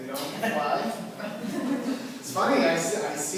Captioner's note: laughter